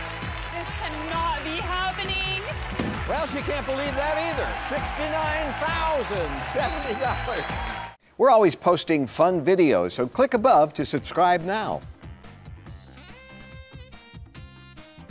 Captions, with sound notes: This cannot be happening! - Well she can't believe that either, $69,070 (crowd cheering) We're always posting fun videos, so click above to subscribe now. (jazzy music)